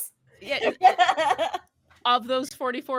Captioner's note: laughing